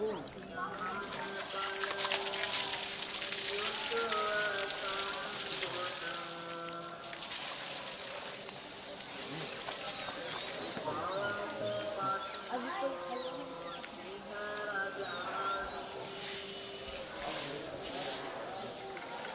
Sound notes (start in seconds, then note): 1.8 splashing; 4.5 chanting in distance